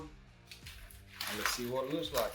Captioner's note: foil crinkles